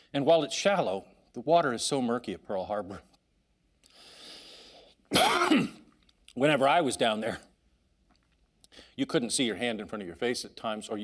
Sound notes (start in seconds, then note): 5.0 coughing